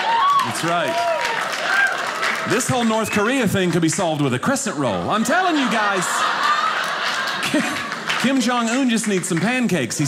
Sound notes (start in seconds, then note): 4.7 audience laughing